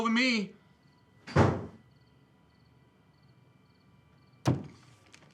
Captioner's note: door thuds; fist bangs